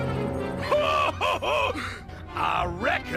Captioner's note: Eggman laughs to himself